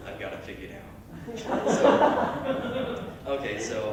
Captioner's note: laughter